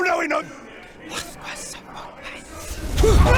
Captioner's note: arcane muttering